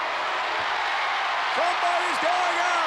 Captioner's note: crowd cheers